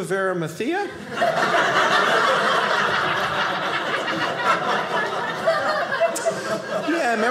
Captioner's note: audience laughing